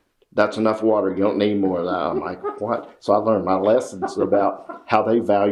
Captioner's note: laughter